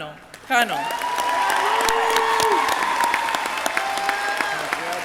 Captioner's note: audience cheering